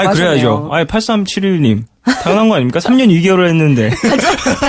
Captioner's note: laughs